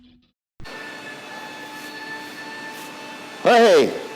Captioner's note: motor hums